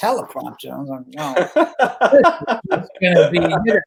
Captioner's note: laughing